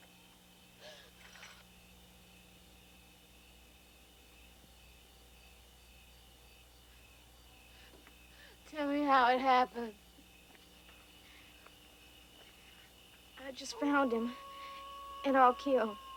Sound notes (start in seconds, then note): none